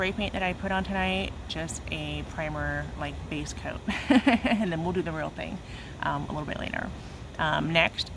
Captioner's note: laughs